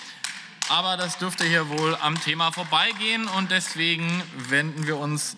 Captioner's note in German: Beifall